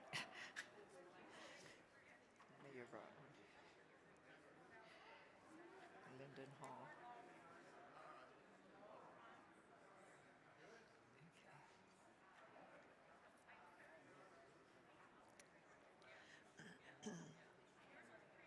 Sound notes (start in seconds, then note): 0.1 laughing; 2.6 faintly speaking; 7.7 crowd chattering